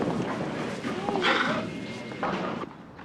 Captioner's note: sighs